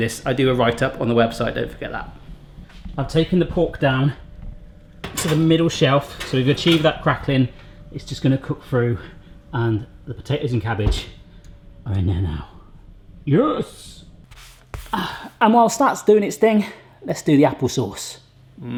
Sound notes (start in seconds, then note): none